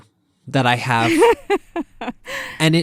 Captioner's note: laughter